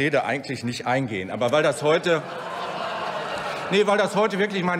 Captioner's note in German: Lachen bei der AfD